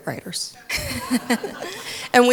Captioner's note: audience laughing